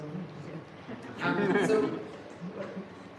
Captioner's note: laughter